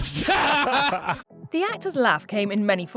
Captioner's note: laughing